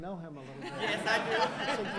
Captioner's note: laughter; laughs